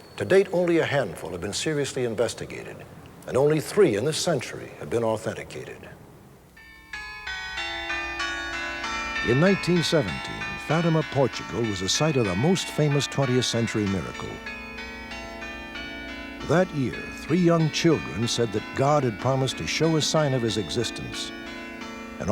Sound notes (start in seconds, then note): 7.6 church bells ringing